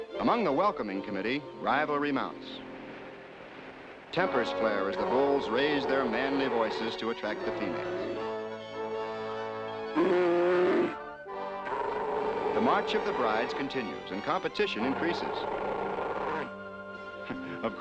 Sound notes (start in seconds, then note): 9.8 growling; 17.6 chuckling